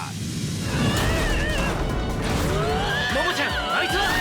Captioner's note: screaming sounds